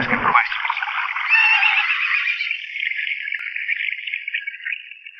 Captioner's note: horse whinnying